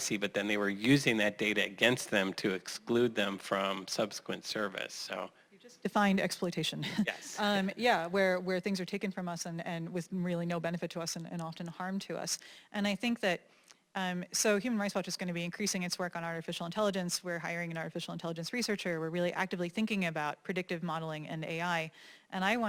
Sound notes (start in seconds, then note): 6.9 laugh